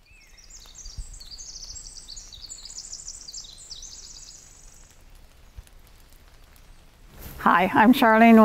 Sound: bird song

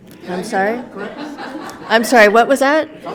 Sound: everyone laughs

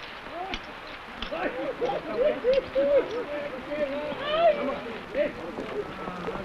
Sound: men shouting; men laughing

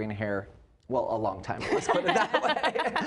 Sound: laughing

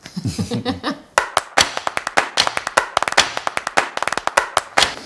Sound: fast, rhythmic clapping

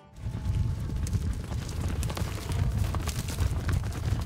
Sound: horses galloping

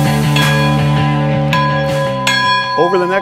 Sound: sound of a bell being rung

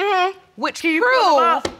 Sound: none

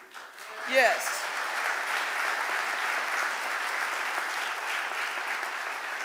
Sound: audience applauding

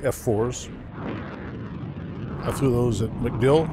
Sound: jets roaring

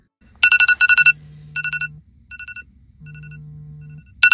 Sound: alarm sounding

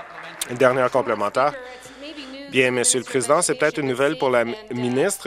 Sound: applause

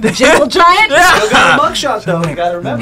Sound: laughs

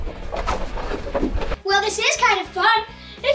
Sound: swooshing

